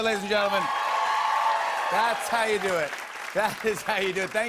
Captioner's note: cheers and applause